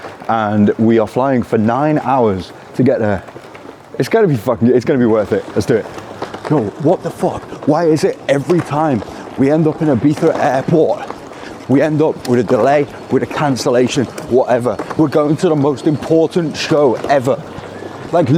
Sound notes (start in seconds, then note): none